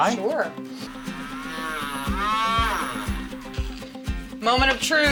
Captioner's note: grinding